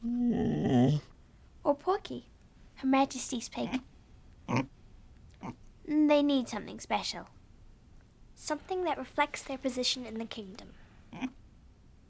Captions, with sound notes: (dog groans) Or Porky, her majesty's pig? (pig grunts) They need something special. - Something that reflects their position in the kingdom.